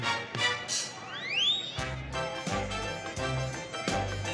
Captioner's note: people chattering